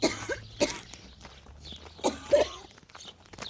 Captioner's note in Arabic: سعال